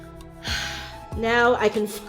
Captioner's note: sighs